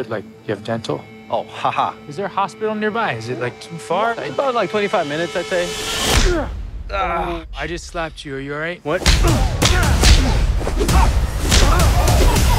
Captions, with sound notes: Like, do you have dental? - Oh, ha-ha. - Is there a hospital nearby? Is it like too far? - About like 25 minutes, I'd say. (punch thuds) (man groans) - Oh, I just slapped you. Are you all right? - What? (punches thudding)